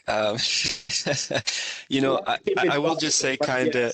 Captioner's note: chuckling